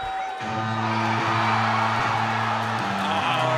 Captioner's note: crowd cheering